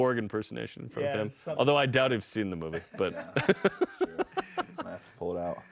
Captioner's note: laughter